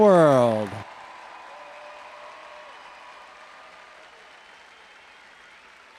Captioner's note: audience cheering and applauding